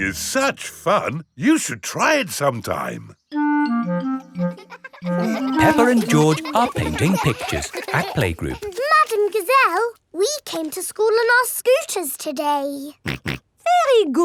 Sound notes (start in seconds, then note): 4.4 children laughing; 13.6 snorts